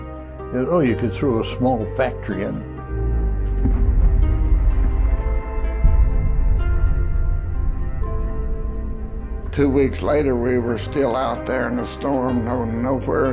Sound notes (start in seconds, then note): 4.3 muffle explosion; 5.8 ominous music